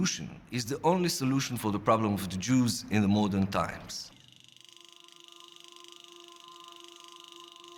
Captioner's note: film reel clicking